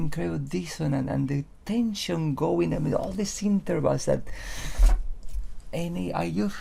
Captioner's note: inhales